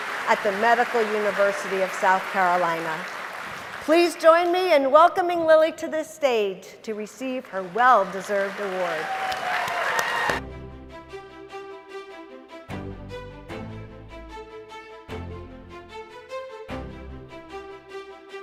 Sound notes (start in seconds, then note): 9.3 applause; 10.4 lively orchestra music